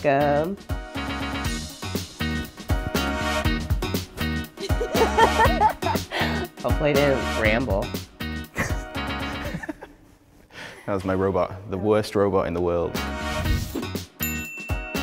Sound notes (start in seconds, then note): 0.0 upbeat instrumental music; 4.6 laughing; 8.5 laughing